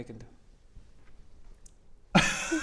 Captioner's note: shocked silence